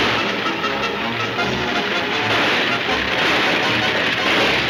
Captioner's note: gunshots banging